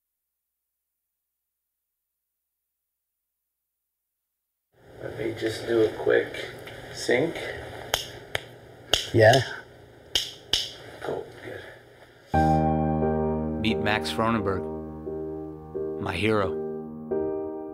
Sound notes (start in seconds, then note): 8.4 crew snapping; 12.3 soft thoughtful music